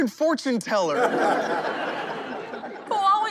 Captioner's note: laughing